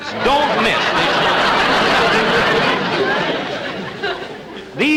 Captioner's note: audience Laughing